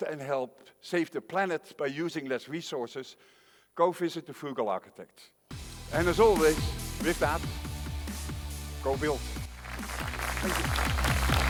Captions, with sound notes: and help save the planet by using less resources, go visit The Frugal Architect. (upbeat music) And as always with that, go build. (audience applauding) Thank you.